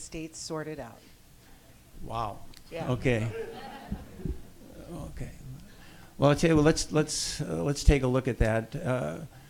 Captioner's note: audience laughs